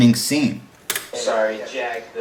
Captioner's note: angry computer mouse click